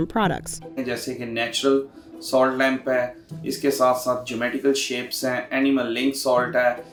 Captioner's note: speaks in a foreign language